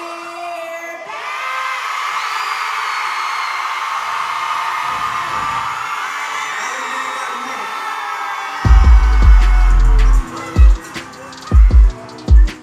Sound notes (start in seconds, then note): 1.8 crowd joining in; 8.6 deep rhythmic music